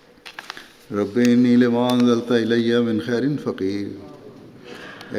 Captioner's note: Arabic